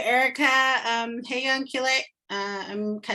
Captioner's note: speaking in native language